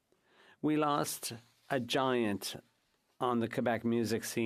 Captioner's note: speaking French